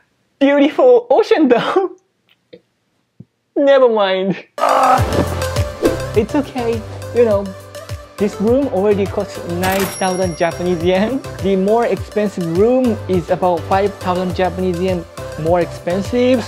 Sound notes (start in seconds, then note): 5.8 thuds